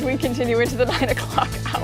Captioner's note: laughter